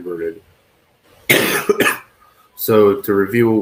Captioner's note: coughs